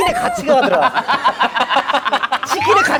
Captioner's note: laughing